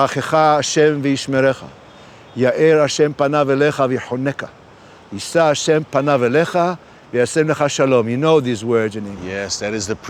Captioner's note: speaking hebrew